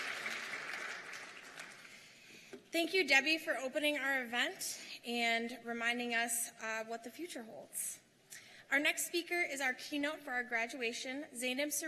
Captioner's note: applause